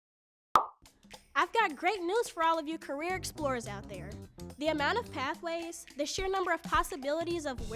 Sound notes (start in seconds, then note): 0.5 cork popping